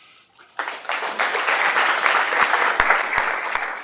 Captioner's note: applause